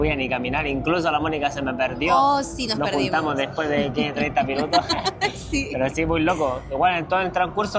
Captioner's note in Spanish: risas